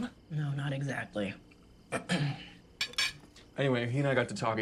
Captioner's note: clears throat